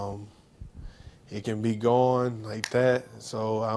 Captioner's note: snaps